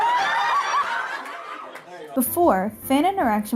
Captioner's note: audience laughs